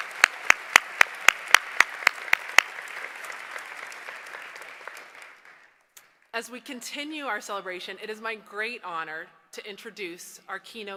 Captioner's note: applause